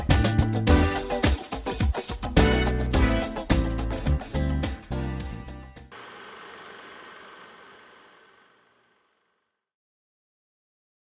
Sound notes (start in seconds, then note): 0.0 upbeat music continues; 5.9 projector whirring